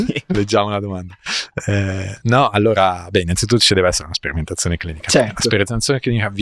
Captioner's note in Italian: risate